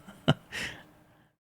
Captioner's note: laughs